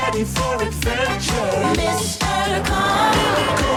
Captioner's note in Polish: klakson